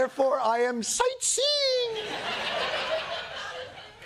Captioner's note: laughter